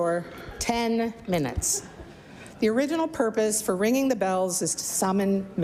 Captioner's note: laughter